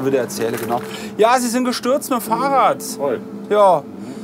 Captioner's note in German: laut